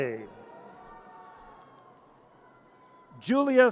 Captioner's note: audience cheers